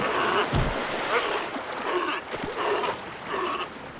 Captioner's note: sea lions grunting